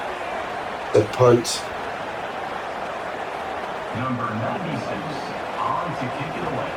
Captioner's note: crowd Noises